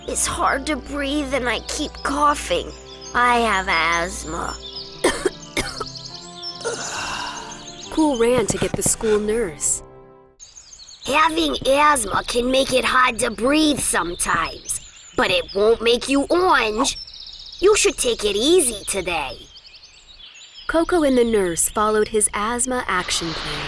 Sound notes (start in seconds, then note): 5.0 coughing and wheezing; 8.2 running footsteps; 9.7 background music stops